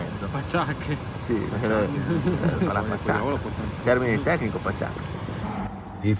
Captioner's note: sarcastically